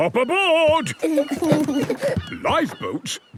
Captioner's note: both giggle